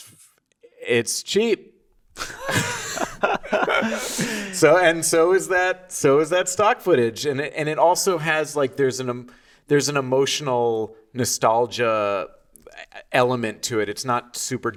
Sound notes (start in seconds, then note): 2.1 both laughing